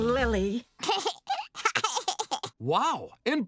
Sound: giggling

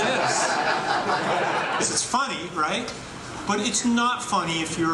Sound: laughter

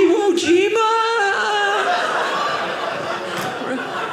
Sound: audience laughing

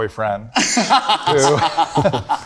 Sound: group laughing

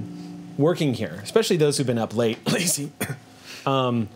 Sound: coughs

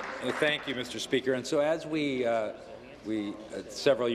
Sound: applause

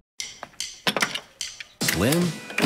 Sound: gun cocks; voiceover

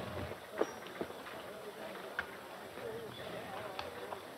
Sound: people chattering

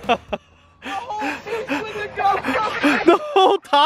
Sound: laughs; yelling

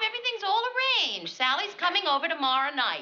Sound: none

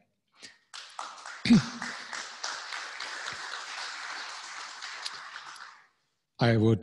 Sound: applause

